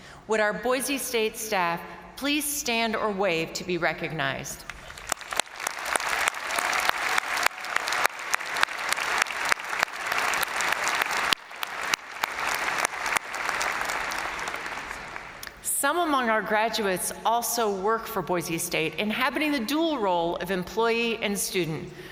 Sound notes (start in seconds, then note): 4.8 crowd applauding; 5.0 crowd cheering